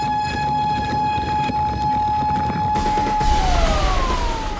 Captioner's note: alarm blares